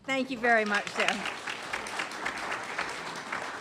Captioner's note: applause